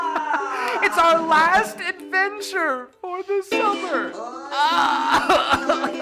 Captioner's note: cries